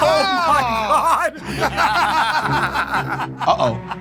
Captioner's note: Murr and Q laughing